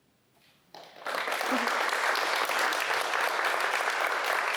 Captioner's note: applause